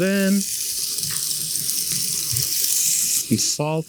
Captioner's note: pan sizzling